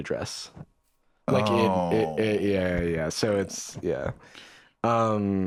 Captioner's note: groans